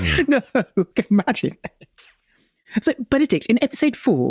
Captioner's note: chuckles